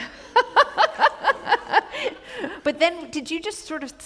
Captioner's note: laughter